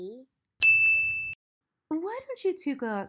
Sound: bell dings

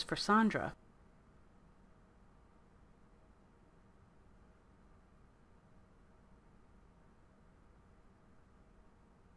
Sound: silence

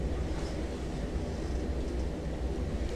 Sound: whispering

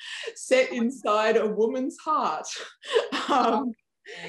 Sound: laughs

